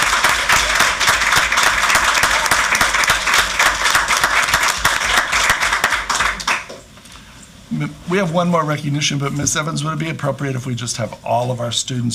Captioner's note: applause